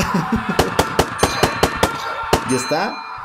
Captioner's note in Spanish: Sonido de disparos